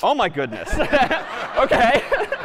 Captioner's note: laughter